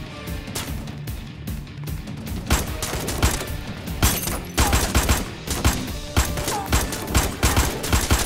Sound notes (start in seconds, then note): 3.9 Bullets firing